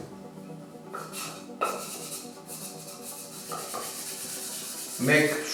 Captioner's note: sponge scrapes